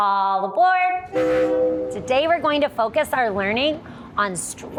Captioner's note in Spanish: suena la bocina del tren